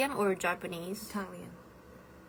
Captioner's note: Italian